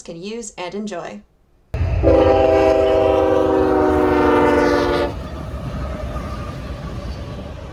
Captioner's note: loud Train Horn